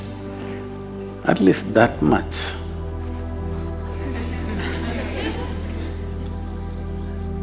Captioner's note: laughter